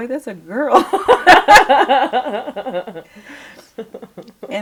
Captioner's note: laughter